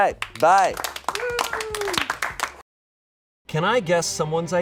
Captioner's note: audience applauding